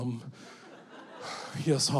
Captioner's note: audience laughing